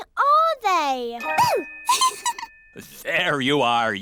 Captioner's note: giggles